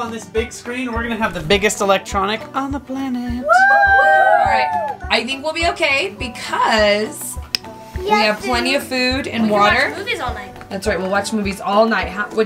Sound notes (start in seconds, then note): 3.4 children whooping